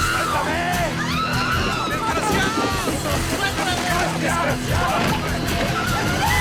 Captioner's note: people speaking in foreign language